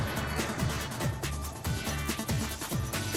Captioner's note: crowd making noises of delighted surprise